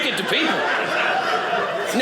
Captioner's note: audience laughing